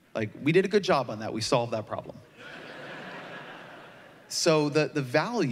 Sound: laughter

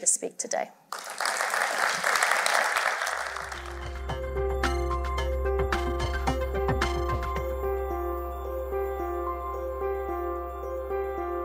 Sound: applause

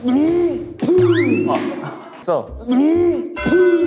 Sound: swoosh

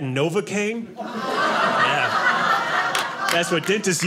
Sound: audience laughing

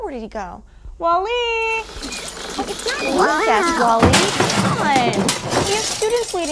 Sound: crashing Sounds

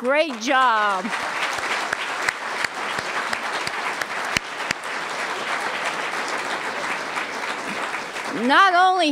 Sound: applause

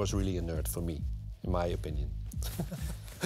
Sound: laughs

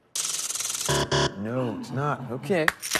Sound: buzzer

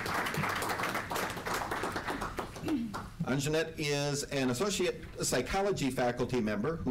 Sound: applause

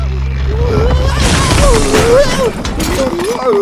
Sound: screaming

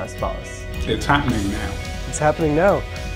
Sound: foreign language

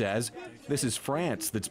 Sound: speaking French

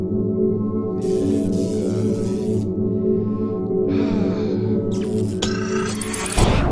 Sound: exasperated sigh; electrical static

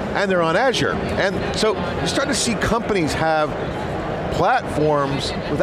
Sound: none

